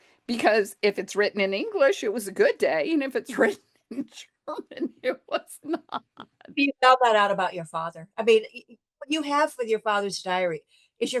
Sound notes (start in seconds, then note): 4.6 laughs